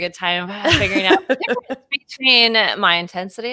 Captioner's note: laughing